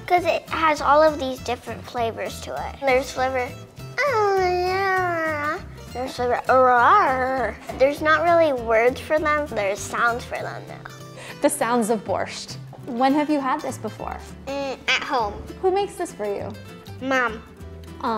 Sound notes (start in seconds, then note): 3.7 moans; 7.0 groans